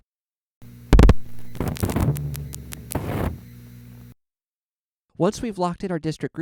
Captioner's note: 2 loud clicks, thhip, many quiet clicks, thhip